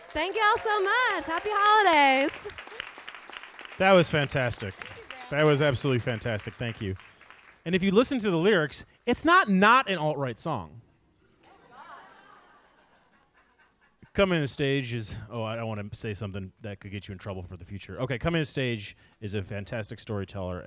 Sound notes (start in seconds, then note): 2.4 audience applauds; 11.4 audience laughs